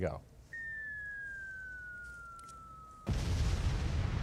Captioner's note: missile hurtling through air; explosion